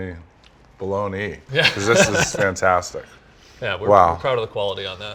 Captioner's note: laughter